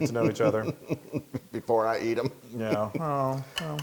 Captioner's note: laugh